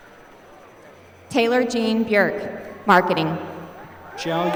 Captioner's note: applause